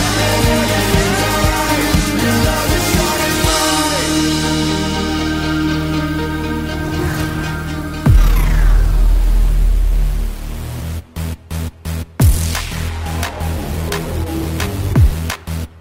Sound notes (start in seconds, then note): 8.3 intense upbeat music; 13.2 clapping